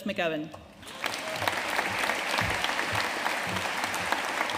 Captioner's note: audience applauding